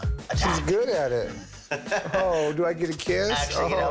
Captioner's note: laughs